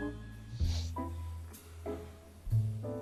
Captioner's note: sniffles